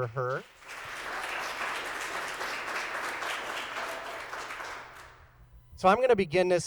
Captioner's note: applause